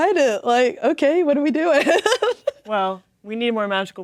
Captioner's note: laughing